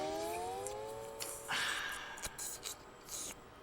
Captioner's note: slurping